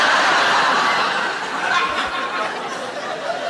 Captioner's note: laughing